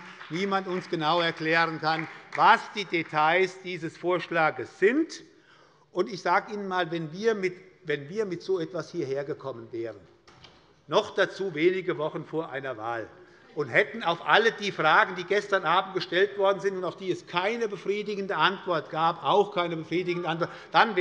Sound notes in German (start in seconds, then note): 5.1 Beifall bei Abgeordneten der SPD